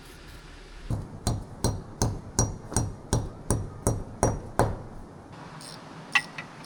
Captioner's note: knocking